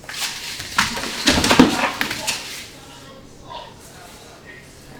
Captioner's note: patrons chat